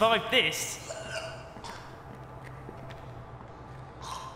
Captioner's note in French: Le monstre râle